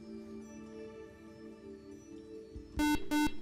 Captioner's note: beep